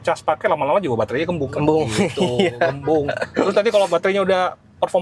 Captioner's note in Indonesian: tertawa